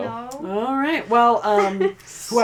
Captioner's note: laughs